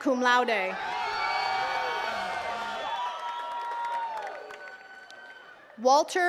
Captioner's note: attendees cheering and clapping